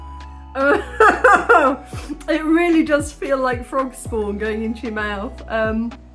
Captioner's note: laughing